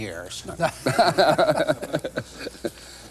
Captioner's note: laughter